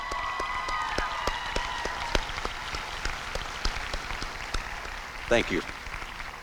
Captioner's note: applause and cheering